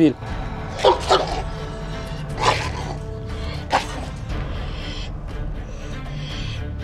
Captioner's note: barking, growling sounds and tense music